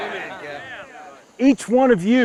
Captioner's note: men cheer